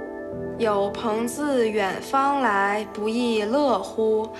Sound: speaking Chinese

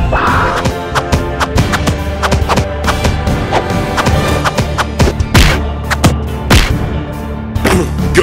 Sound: fighting sounds

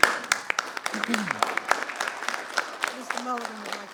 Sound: people clapping

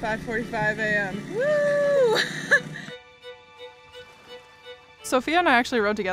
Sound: woman whoops and laughs

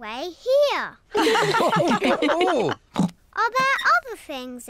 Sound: all laugh

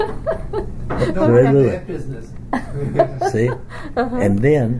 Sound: laughs

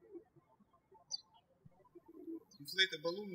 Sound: birds chirping

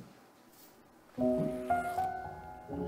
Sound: zipper rasps

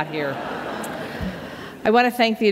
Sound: laughter

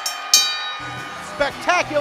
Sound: bell rings

